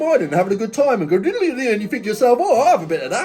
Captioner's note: blubbering